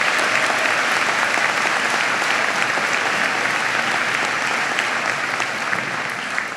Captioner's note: applause